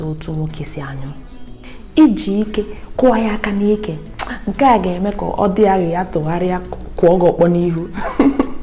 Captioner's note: giggles